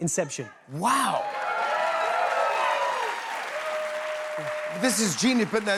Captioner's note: cheers and applause